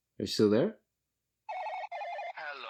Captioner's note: phone ringing